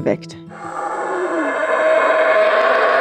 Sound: monkey roar

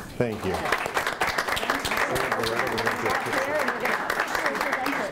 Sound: applauding

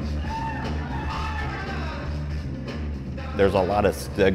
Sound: cheers

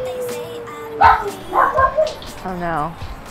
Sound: wolf Howls; dog Barks

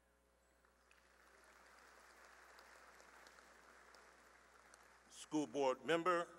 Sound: applause

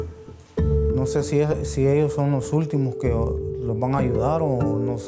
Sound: speaking in foreign language

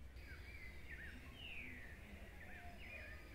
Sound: birds chirping

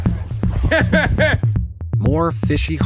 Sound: laughs

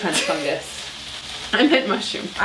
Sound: laughs

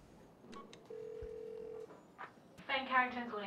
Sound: phone rings; line ringing

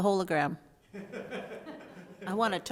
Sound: board laughs

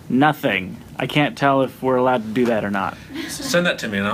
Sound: laughs

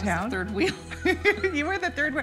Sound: laughing

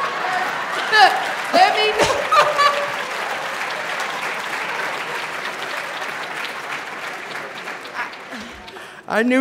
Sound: laughter; applause

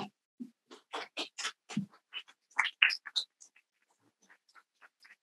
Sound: people clap softly

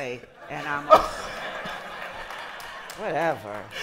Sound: laughter

